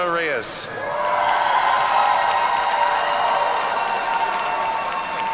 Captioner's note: audience cheers and applauds